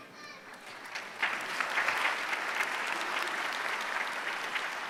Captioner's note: applause